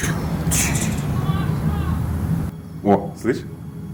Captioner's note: screaming from the street